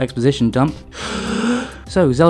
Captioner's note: deep Breath